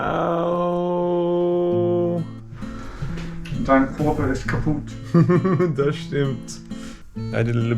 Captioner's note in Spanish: hablando alemán